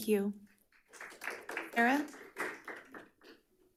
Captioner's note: audience clapping